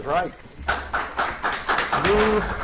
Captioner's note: audience applauds